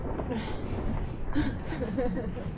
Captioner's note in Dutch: zacht gelach